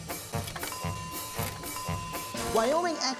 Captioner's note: bell dinging